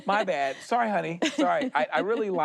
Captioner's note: laughs